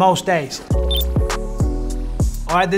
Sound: bright hip hop music; graphic blips

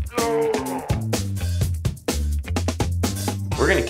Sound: groaning

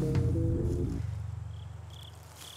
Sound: crickets

